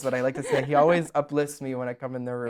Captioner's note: laughs